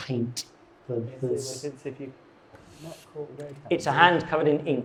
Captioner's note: guests chattering